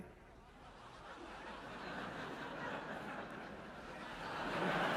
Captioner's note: audience laughing